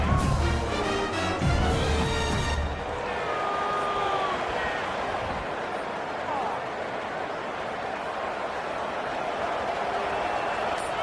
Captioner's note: crowd Noises